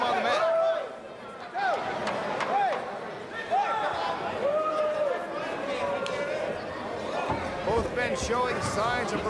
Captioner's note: crowd chatter